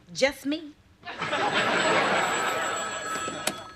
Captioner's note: phone ringing